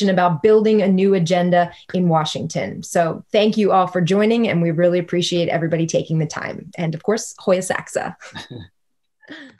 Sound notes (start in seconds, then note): 8.2 laughing